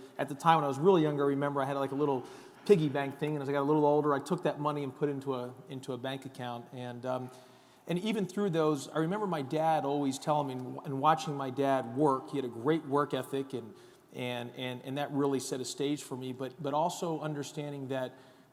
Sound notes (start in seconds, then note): none